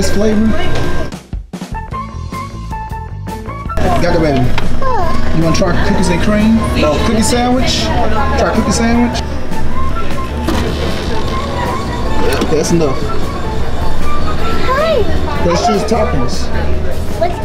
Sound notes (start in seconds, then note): 1.3 upbeat music; 8.1 woman talking in the background; 10.1 machine whirring; 13.6 upbeat music